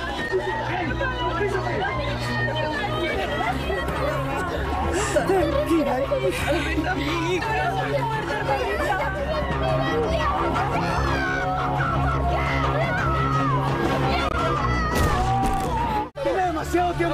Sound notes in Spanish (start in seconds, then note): 10.7 gritos